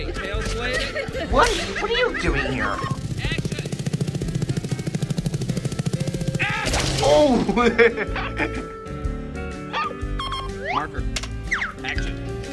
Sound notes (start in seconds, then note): 6.7 screams, grunts, whimpering; 7.2 laughs